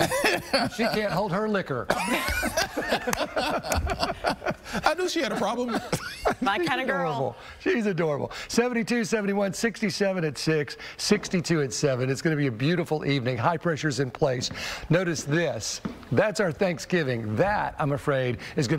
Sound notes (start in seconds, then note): 7.0 laughter